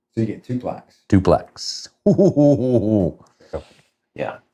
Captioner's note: laughs